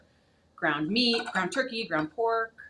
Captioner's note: utensils clattering